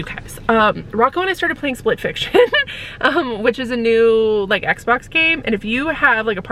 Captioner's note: laughs